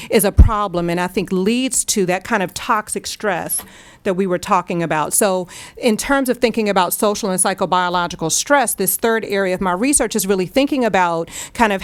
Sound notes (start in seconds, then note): none